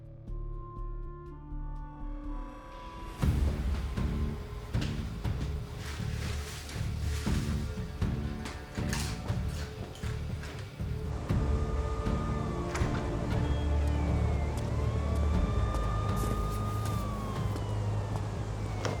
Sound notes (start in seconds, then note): 8.8 crunching chips; 12.5 sirens in the distance